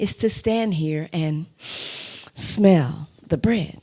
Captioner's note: inhales sharply